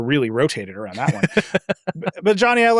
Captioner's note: laughing